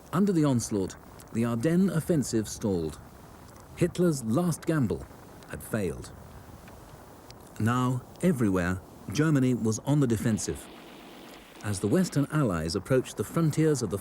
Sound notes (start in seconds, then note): 10.4 gun rattles